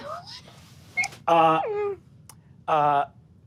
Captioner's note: laughs